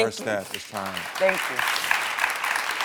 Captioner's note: audience applauding